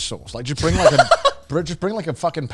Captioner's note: giggling